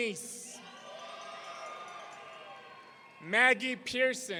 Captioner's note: audience cheering